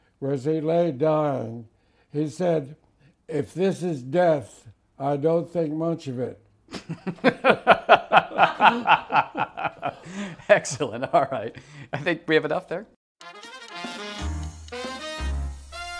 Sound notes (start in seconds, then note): 6.7 laughs